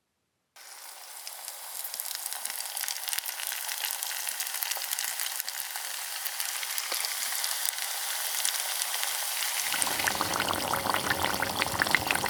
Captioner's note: sizzling spring rolls in hot oil